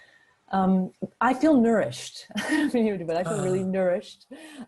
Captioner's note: chuckles